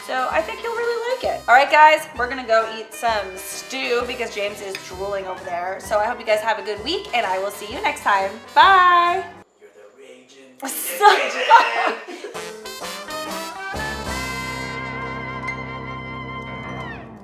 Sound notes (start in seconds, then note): 10.7 laughs; 12.7 upbeat music